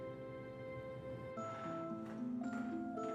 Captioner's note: gentle music; footsteps tapping; door creaking; gentle music